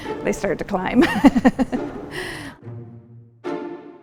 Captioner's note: laughs